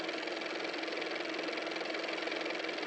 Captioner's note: car motor